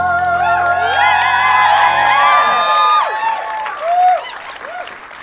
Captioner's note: audience cheers and applause